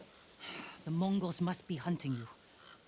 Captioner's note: sigh